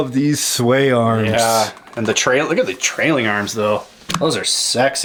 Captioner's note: voiceover